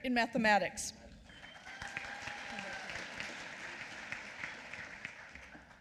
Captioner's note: applause